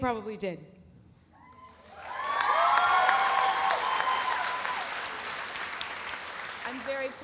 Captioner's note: audience cheering; audience applauding